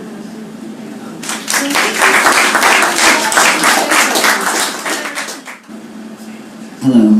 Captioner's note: applause